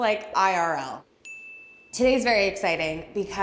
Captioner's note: swatch dinging